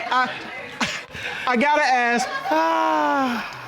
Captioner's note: chuckles